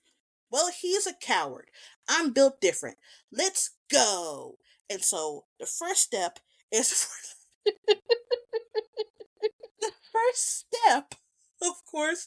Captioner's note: laughs